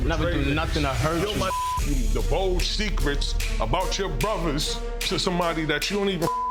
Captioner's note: beep; beep